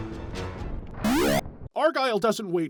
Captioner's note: spawning sound